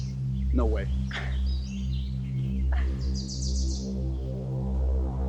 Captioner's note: Janet chuckles